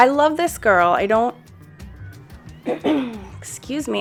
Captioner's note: artist coughs